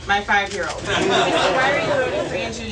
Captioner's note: audience laughs